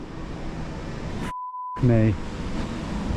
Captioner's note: beep